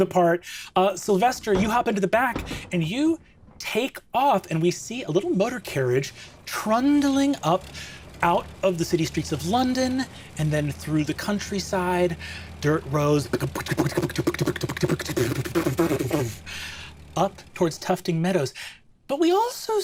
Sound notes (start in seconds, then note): 13.1 making old-timey car noises